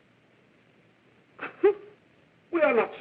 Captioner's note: sobbing